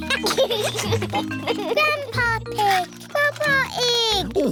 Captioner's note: giggles